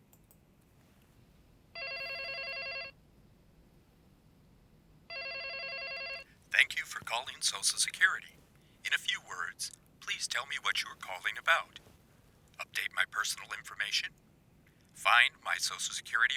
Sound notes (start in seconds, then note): 1.7 phone rings; 6.7 voiceover